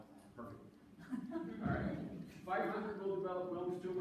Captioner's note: audience laughing